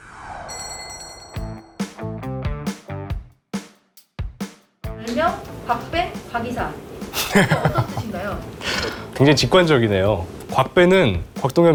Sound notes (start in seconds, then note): 7.1 haha